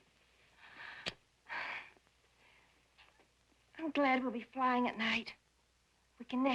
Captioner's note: sighs